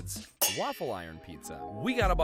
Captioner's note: metal clangs